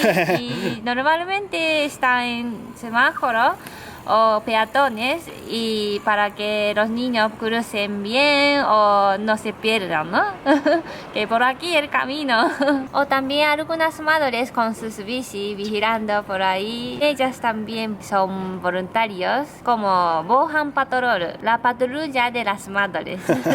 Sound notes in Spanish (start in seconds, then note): 0.0 risas; 21.0 en japonés; 23.2 risas